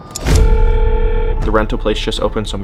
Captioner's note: clock ticking; intriguing dramatic music; dramatic thud; dial tone